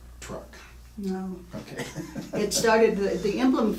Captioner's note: laughing